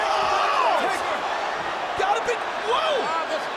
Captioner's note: crowd cheers